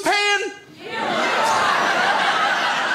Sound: crowd; crowd laughs

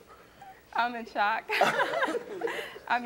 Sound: laughs

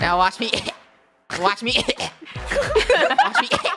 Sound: cOugH coUGH; coUGH

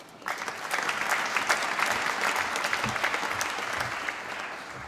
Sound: applause

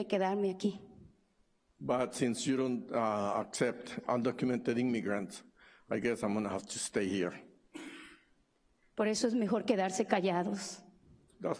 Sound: speaking spanish

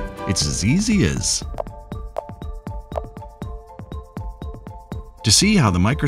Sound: ball bouncing and clicking

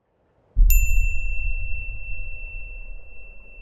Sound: beep

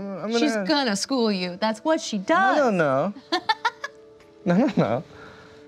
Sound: laughs

